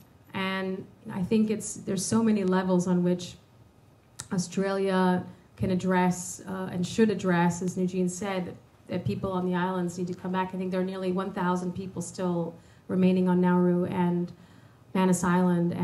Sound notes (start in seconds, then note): none